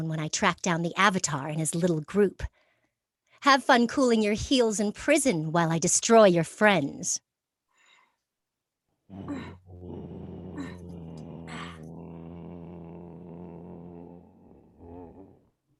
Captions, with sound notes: when I track down the Avatar and his little group. Have fun cooling your heels in prison while I destroy your friends. (flying dirigible roaring)